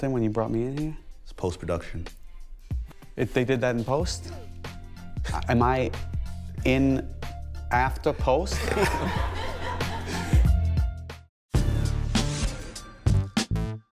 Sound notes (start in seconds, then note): 8.6 laughs